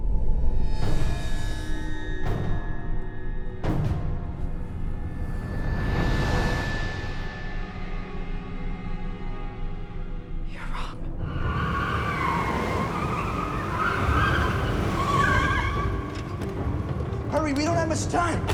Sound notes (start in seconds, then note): 0.2 ominous music; 5.8 ominous music intensifies; 11.2 car tires screeching